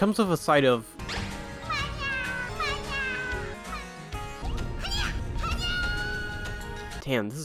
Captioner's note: repeat death sounds